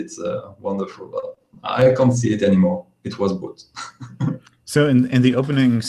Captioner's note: laughs